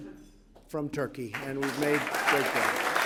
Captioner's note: applause